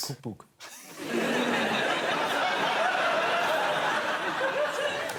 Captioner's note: laughter